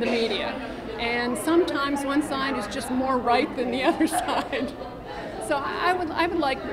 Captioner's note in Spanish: risas